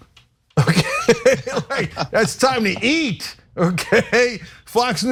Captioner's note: laugh